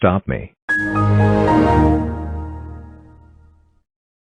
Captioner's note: Windows XP Shutdown